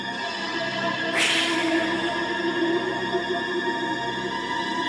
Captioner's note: Reese hisses; suspenseful music continues